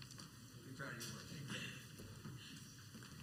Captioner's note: coughing